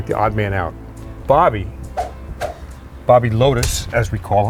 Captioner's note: hands whooshing